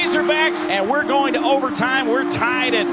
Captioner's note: voiceover